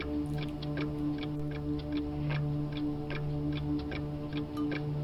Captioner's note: clock ticking continues